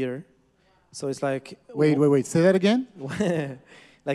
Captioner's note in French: rires